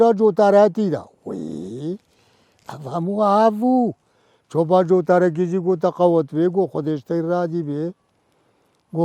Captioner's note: speaking to himself